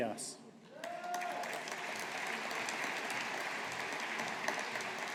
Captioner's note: audience applauding